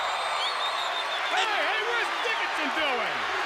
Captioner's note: crowd cheering